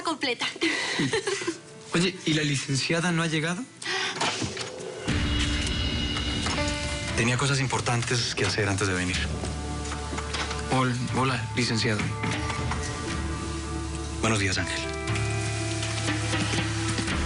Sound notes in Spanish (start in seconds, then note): 0.7 Ríe; 4.1 Ruido en la puerta